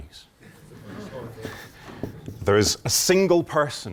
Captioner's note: laughter